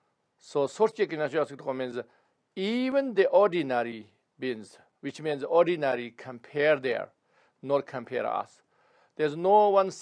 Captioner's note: tibetan